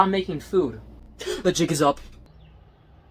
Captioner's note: gasp